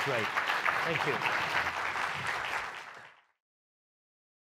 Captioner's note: audience clapping